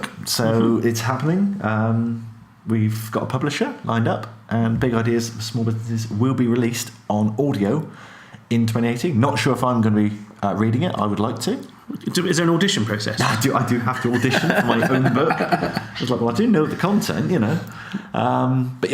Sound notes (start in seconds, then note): 13.7 laughs